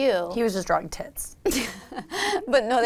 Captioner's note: laughs